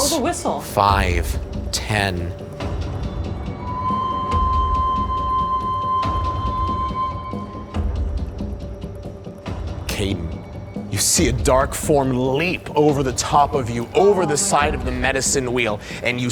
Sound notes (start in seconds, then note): 3.3 whistle blowing; 7.2 tense music